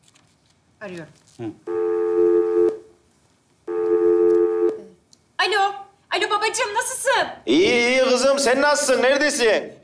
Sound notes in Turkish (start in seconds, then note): 1.7 Telefon çalar